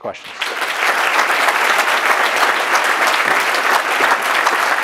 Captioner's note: audience applauding